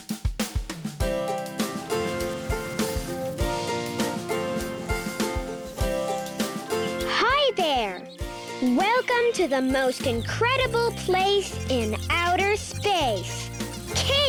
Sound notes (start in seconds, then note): 0.1 lighthearted acoustic music; 6.1 birds chirping